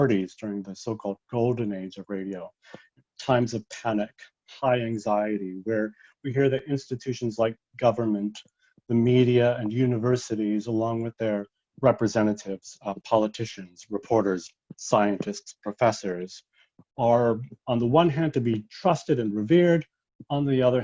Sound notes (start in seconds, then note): none